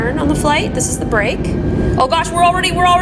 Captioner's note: engine whirs